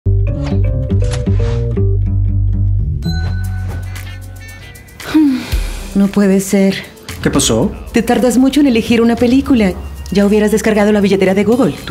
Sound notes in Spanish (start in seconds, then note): 0.0 música animada; 5.0 suspiro